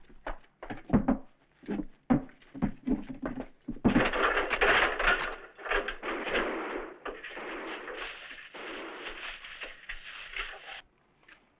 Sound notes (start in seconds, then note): 3.9 rattling; 5.9 distant gunfire